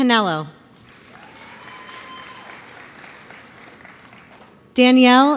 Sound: audience applauds

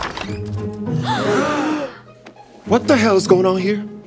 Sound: gasping

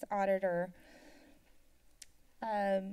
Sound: silence

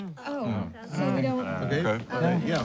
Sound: all murmuring; door opens

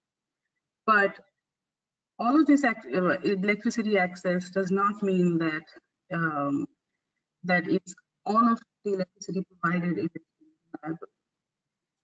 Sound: audio static

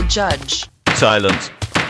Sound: gavel banging

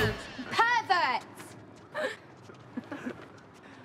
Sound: laughs

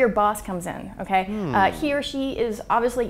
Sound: man grunting

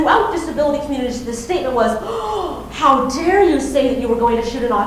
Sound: gasping

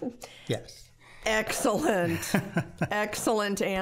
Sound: chuckling

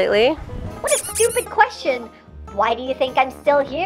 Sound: squeaks

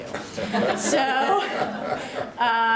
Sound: laughter

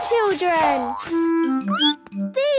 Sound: squeaks

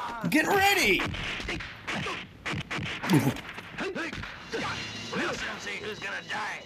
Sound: fighting sound effects

